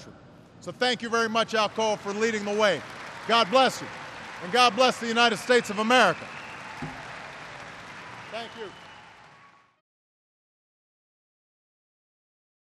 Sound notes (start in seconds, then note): 5.9 applause